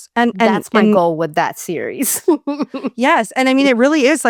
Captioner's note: laughs